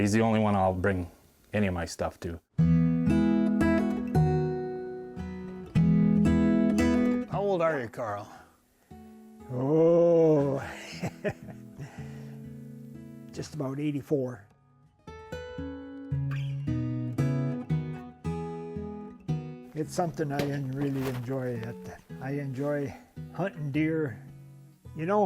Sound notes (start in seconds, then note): 7.2 gentle acoustic music; 12.5 chuckles